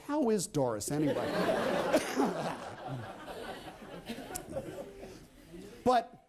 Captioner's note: laughter